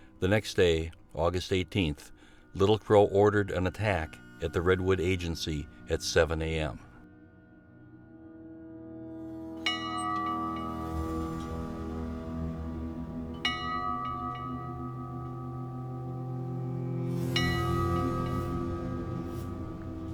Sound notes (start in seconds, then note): 7.1 ominous music continues; 9.7 bell ringing